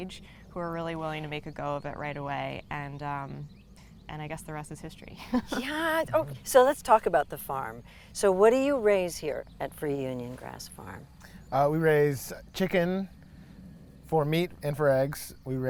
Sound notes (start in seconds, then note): 5.2 laughs